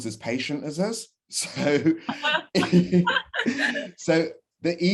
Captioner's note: laughter